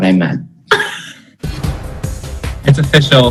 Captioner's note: laughter